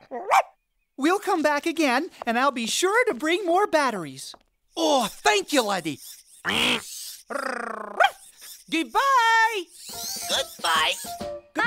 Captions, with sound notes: WE'LL COME BACK AGAIN, AND I'LL BE SURE TO BRING MORE BATTERIES. OH, THANK YOU, LADDIE. QUACK. [ Bark ] GOODBYE. GOODBYE. GOODBYE. BYE.